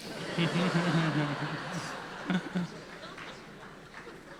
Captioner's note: audience laughing